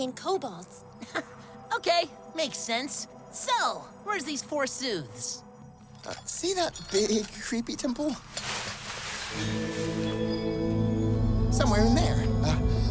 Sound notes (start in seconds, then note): 9.3 eerie chime announces the presence of the big creepy temple